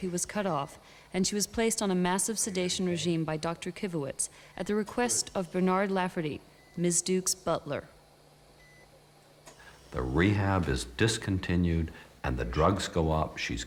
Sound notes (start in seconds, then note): 8.6 machines beeping